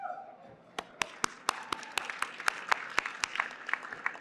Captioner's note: applause